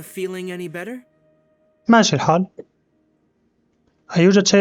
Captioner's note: silence